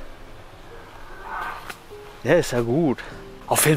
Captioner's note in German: laute Tiergeräusche